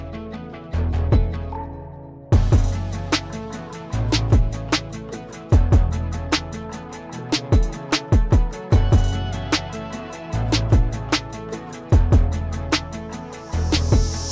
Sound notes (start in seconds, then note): none